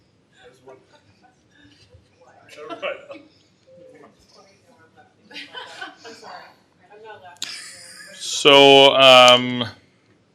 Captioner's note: laughter